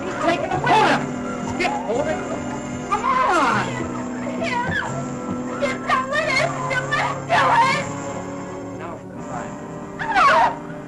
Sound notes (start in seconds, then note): 10.0 girls screaming; 10.3 dramatic music